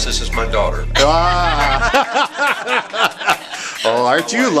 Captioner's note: laughter